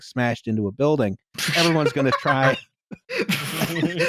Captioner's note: laughter